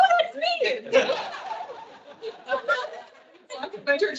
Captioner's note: attendees laughing